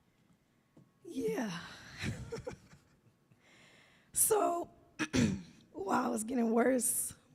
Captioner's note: laughs; coughs